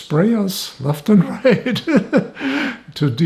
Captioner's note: laughing